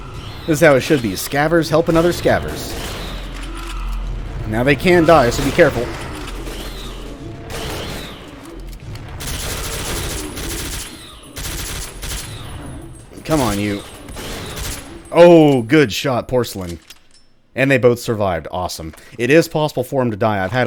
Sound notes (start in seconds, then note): 9.8 gunfight continues